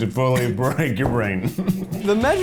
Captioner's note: laughing